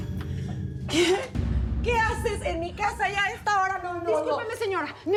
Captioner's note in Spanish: ruido al abrir